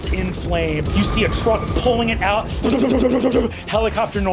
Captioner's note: mimics helicopter